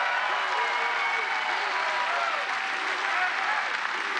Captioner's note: cheers and applause